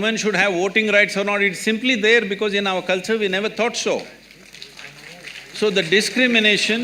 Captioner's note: applause